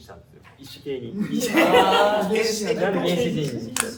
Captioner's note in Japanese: 笑い声